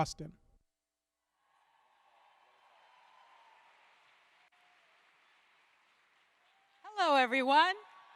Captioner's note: applause